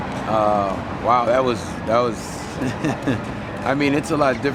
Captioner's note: chuckles